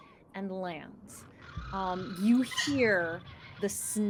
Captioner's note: bird shrieking loudly